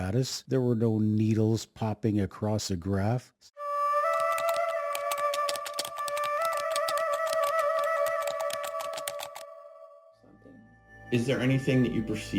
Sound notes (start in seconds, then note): 3.8 eerie music; 4.0 keys typing